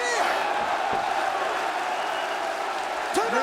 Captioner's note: crowd vocalizing